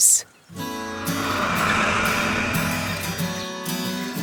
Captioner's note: tractor engine